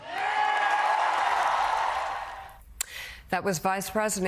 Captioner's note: applause